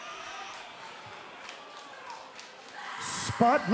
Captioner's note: cheers and applause